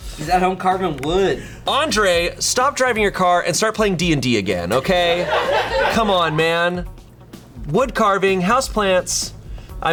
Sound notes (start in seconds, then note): 4.8 colleagues laughing